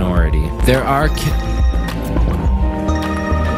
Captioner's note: ringing